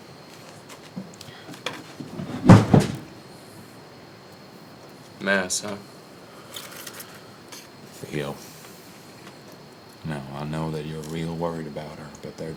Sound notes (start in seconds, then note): 1.9 chair thumps